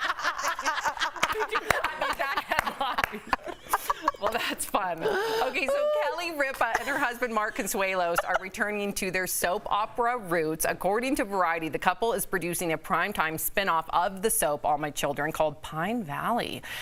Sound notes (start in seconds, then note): 9.1 laughter